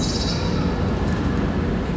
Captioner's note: city soundscape